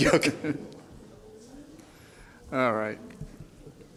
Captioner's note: laughter